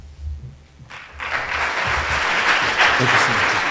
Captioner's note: audience applauding